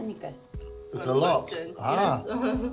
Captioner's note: speaking Korean